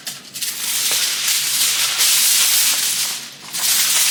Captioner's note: tin foil crackles